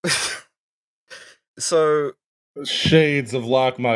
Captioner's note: disbelieving laughter